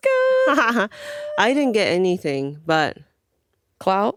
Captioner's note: laughs